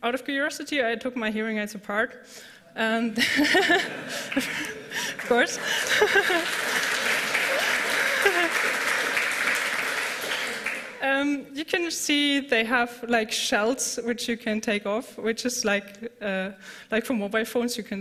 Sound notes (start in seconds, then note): 3.1 laughter; 6.0 laughs; 6.5 applause